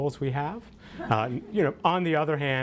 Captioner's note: audience laughter